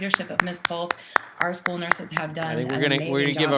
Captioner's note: audience applauding